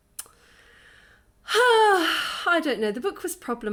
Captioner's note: deep sigh